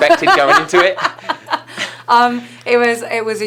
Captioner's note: laughing